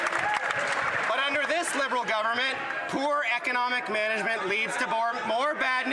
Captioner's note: some Applause